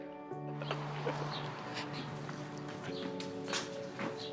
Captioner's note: birds chirping